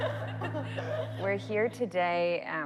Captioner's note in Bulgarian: Членовете на групата се смеят